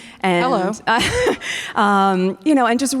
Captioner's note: chuckles